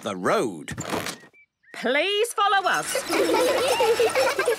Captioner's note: laughter